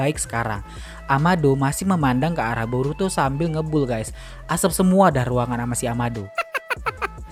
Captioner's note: laughs